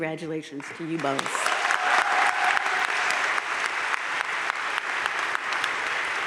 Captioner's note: crowd cheering and applauding